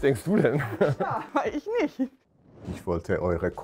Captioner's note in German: lacht